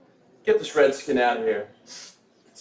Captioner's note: sniffing